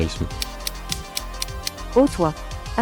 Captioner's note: impending doom tick tick tick